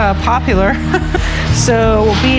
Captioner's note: laughs